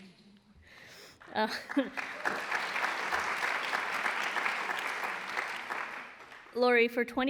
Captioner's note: applause